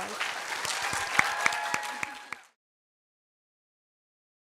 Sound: applause

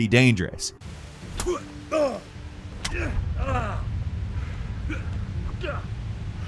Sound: blows thudding; fighter grunting

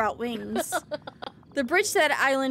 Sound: Mother Gothel Laughs

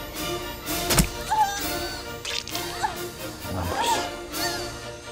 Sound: fleshy thunk; groaning

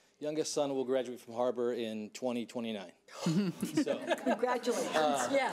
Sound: board laughing

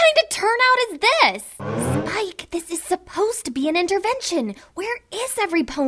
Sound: whispering

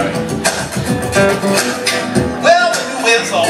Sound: vocal percussion

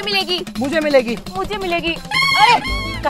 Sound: quarreling

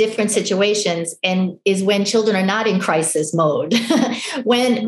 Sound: laughs

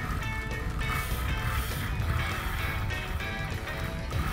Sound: reel spinning

